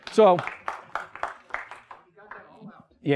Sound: clapping

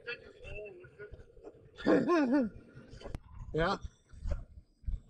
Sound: laughs

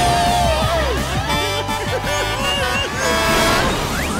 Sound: laughing

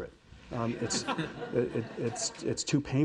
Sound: audience laughing

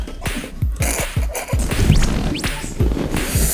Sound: bursts out laughing

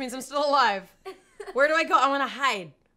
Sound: laughs

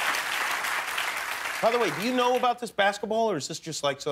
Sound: cheering and applause

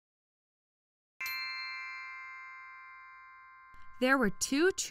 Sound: magical chime

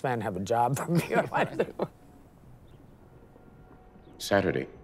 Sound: laughing

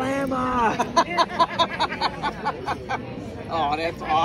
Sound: laughter

